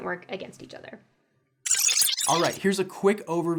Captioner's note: digital glitch